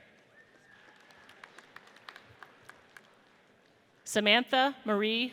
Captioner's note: audience applauds